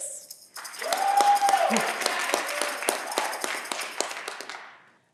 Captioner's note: audience clapping